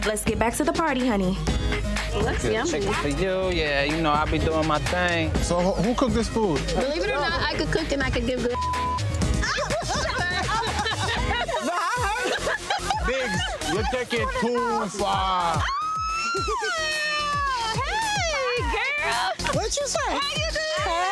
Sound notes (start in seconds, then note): 8.4 beep; 9.4 laughter; 12.9 high pitch female laughter